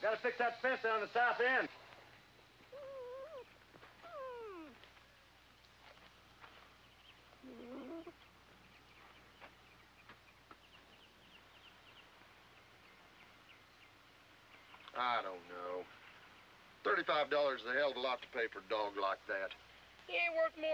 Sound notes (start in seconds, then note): 2.6 puppy whining